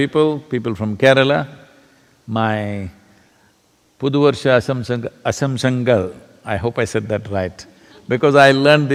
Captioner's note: Speaks in Malayalam – not transcribed